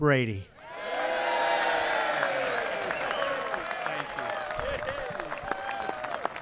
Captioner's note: applause